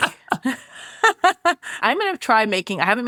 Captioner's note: laughs